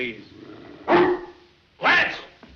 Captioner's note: dog barks